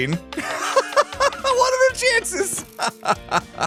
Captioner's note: laughs